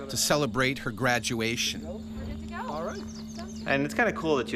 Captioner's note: voiceover